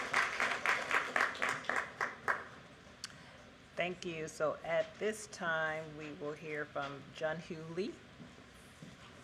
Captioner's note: applause